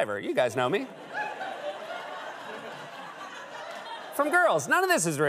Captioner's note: laughter